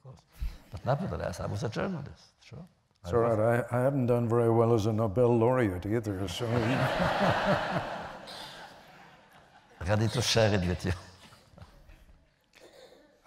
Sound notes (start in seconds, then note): 6.4 laughter